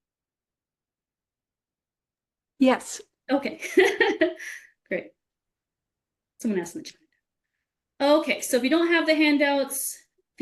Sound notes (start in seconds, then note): 4.4 laughs